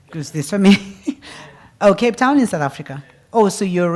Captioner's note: laugh